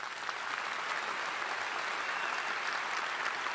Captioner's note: all applauding